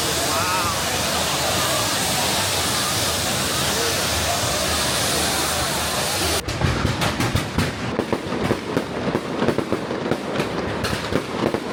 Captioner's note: firework